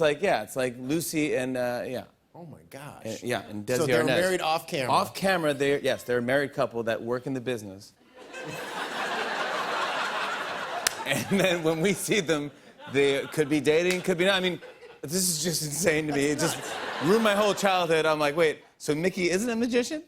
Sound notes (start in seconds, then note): 8.1 laughter